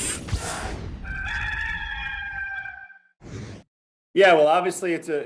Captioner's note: cockerel crows